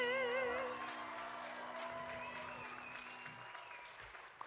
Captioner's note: audience applauding